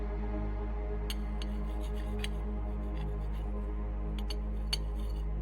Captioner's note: utensils scratch